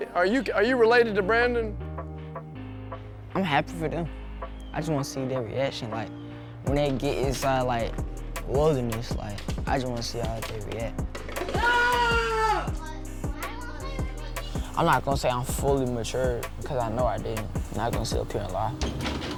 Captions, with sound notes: Are you related to Brandon? - I'm happy for them. I just want to see their reaction when they get inside the wilderness. I just want to see how they react. (shouts) I'm not gonna say I'm fully matured, because I know I didn't. I'm not gonna sit up here and lie.